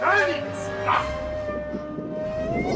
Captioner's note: grunts